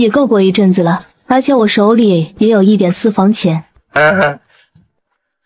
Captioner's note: ahem